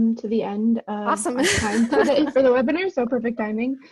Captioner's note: laughs